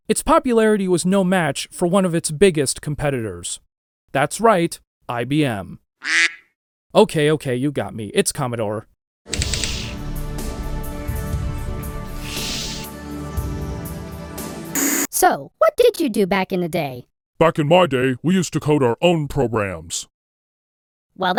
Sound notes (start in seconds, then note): 6.0 quack sound; 14.8 TV static